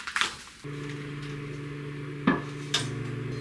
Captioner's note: 전자레인지소리